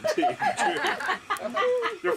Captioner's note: laughing